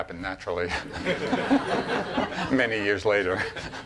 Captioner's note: laughing